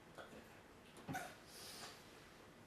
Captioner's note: cough